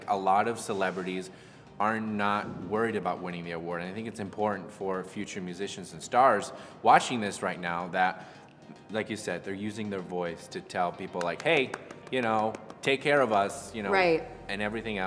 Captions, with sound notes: A lot of celebrities are not worried about winning the award. I think it's important for future musicians and stars watching this right now, that... Like you said, they're using their voice to tell people like, "Hey" (clapping lightly) "You know, take care of us." - Right.